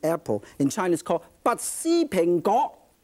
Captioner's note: in foreign language